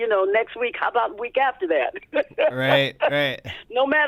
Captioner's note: laughter